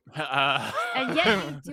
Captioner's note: laughs